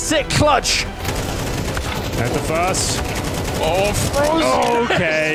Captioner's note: guns fire